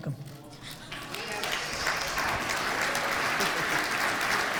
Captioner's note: audience applauds